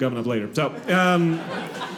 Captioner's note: audience laughing